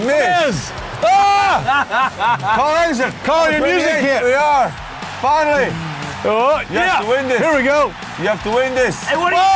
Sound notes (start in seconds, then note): 1.0 screams; 1.3 laughs